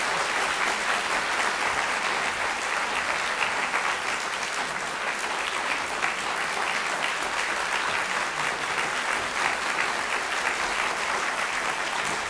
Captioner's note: applause